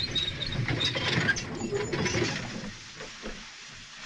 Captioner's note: train rattling